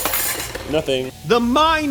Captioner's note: food processor crashes